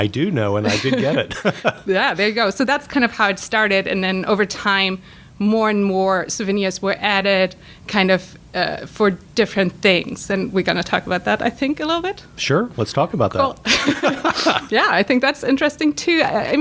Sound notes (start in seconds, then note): 3.1 laughter; 13.6 laughter